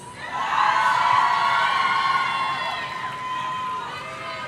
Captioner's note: audience cheering